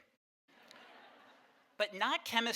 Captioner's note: audience laughing